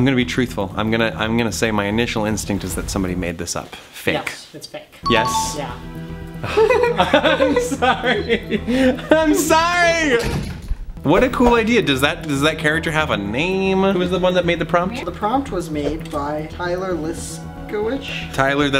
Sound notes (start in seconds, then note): 5.1 dinging; 6.4 laughs